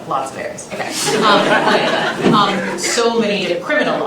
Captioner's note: laughter